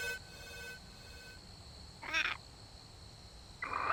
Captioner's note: cicadas humming; machine scan beeping; medium pitched squeal